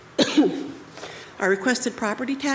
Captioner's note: coughs